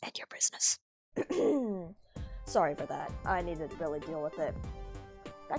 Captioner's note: continued whispering; clears throat